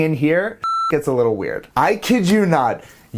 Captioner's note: beep